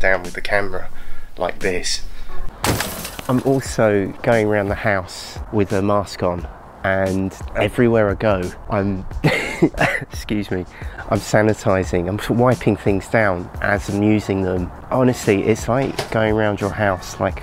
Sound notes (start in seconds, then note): 9.5 cough